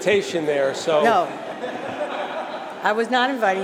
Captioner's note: laughter